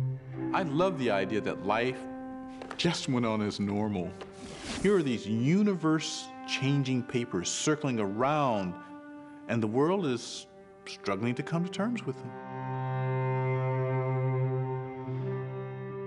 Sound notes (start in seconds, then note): none